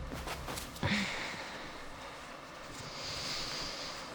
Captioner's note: Claire sighs